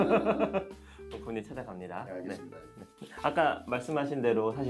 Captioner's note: haha